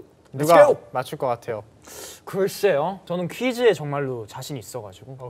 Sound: speaking in Korean

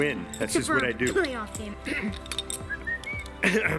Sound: scoffing; whistling

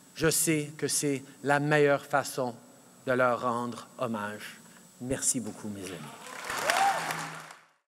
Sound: applause

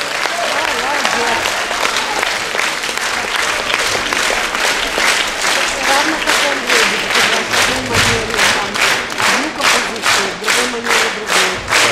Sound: stormy applause

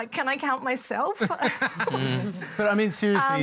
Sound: laughter

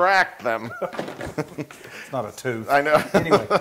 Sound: laugh

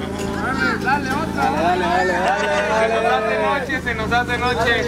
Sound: people yell

